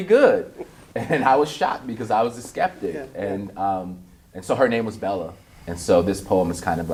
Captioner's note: chuckles